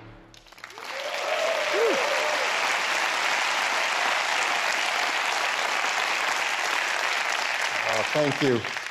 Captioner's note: applause